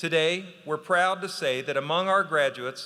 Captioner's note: none